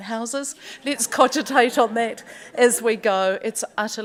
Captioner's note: audience chuckles